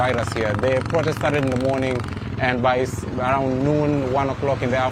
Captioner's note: helicopter